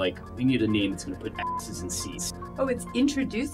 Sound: beep

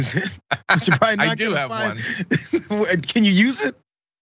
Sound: laugh

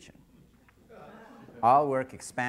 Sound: scattered laughter

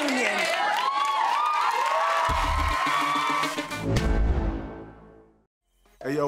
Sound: audience cheer and applaud; upbeat hip hop music

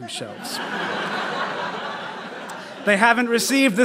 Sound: laughter

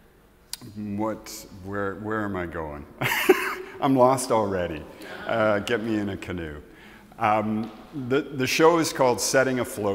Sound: laughs

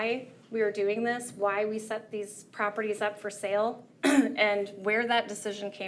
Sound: clears throat

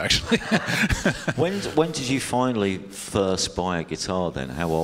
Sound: laughs

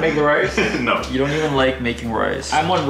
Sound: laughs

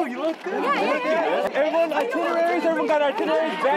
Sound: chattering

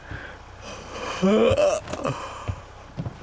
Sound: yawning

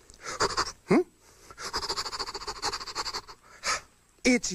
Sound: sniffing; sniffing Continues; gasp

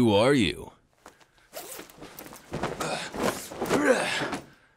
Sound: unzips jacket

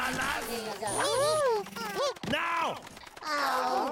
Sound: Bongolalas gasp

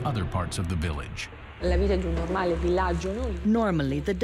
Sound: non-english speech

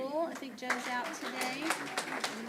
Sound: applause

